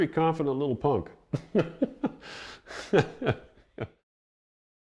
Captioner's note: chuckles